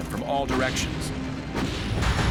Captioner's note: ship firing